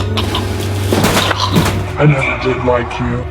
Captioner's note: choking